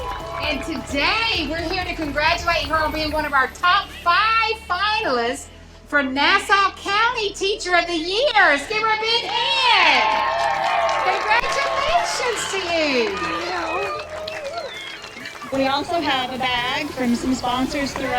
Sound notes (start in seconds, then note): 11.0 crowd cheering